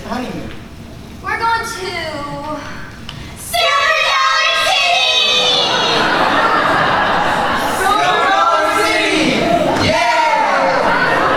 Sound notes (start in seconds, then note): 5.3 laughter